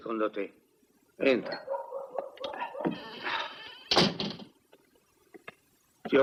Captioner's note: door closes